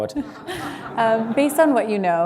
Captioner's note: laughter